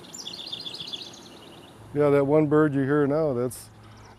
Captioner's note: bird trilling